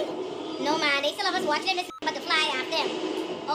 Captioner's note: beep